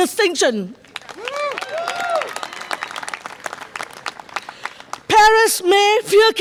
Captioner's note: audience applause and cheer